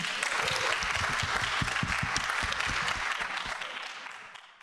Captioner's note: people clapping